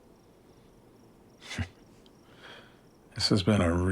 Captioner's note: Christopher chuckles